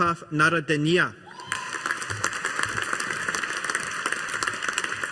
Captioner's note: audience applauding